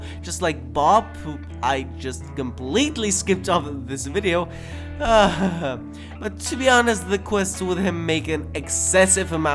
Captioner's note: laughs